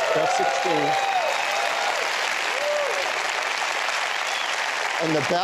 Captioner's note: applause